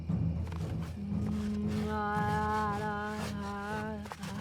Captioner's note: Salina chants